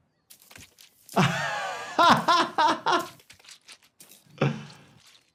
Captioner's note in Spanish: el doctor se ríe